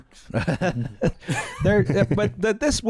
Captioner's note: laughter